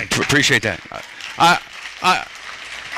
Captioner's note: applause